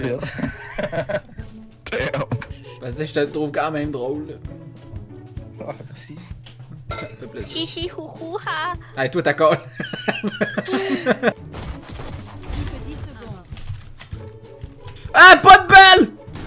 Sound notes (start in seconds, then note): 9.6 laugh